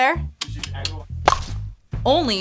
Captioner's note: imitating baseball bat hitting ball